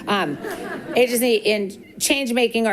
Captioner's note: people giggling